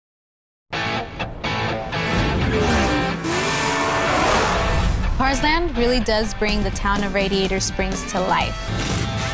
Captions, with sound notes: (upbeat music) (motors revving) - Cars Land really does bring the town of Radiator Springs to life.